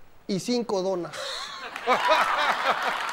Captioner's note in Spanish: Risas; Aplausos